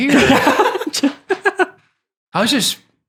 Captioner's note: group laughing